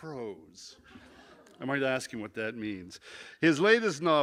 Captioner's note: laughter